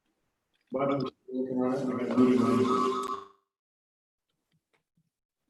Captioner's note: computer echoing